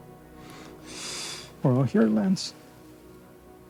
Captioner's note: Lance breathing uneasily